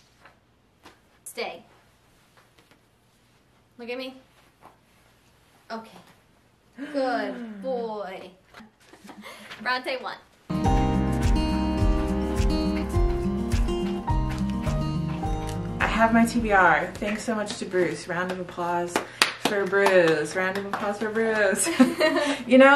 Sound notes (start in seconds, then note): 7.5 gasps; 10.5 sunny Day Music